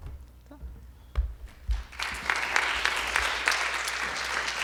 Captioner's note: audience applause